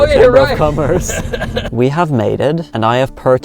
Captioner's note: laughing